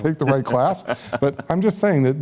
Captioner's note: laughter